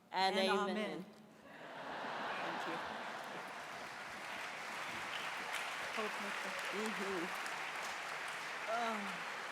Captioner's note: applause